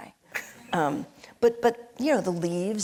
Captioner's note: laughing